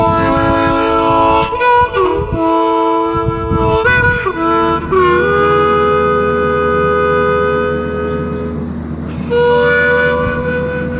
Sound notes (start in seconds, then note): 1.8 wind whooshing; 5.1 machinery humming